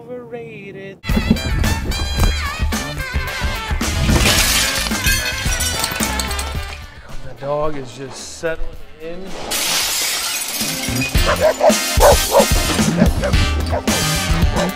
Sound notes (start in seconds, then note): 1.0 jazz music; 9.1 crashing; 11.9 barking